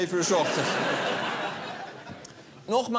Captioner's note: laughter